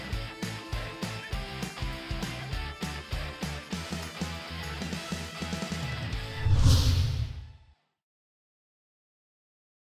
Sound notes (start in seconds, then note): 0.1 upbeat music; 6.2 logo swooshes